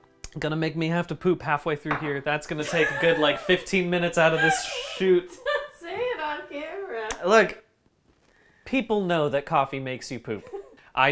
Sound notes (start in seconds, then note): 4.1 laughing